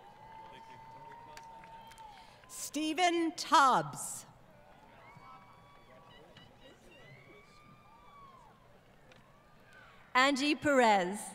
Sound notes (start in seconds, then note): 4.5 crowd Cheering & Applause